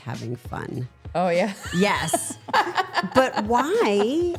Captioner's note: laughs